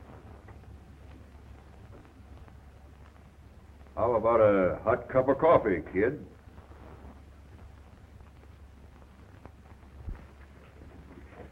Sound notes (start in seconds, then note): none